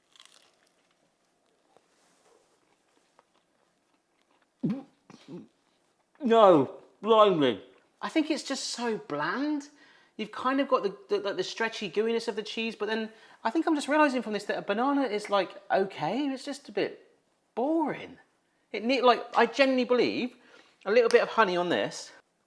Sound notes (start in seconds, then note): 0.0 tortilla crunches; 4.7 host gags